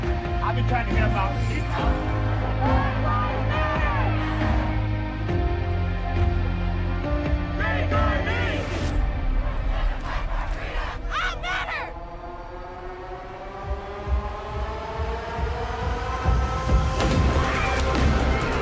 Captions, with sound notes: - I can't breathe! - [crowd chants] Black Lives Matter! - [crowd chants] Take our knees. - I matter! (dramatic music)